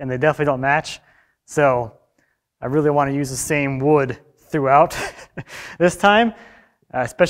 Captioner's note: laughs